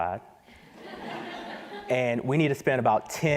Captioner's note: laughter